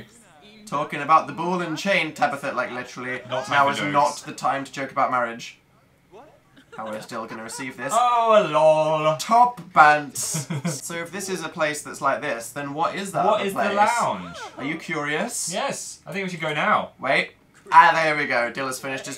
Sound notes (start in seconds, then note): 10.1 laughs